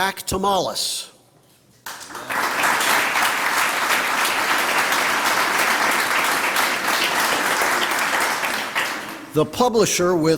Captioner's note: applause